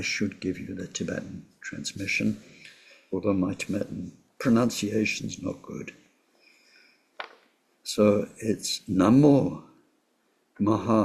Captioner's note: tibetan